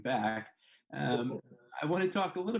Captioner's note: laughing